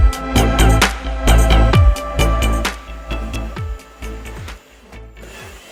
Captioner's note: fast drill noise